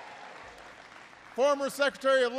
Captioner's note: applause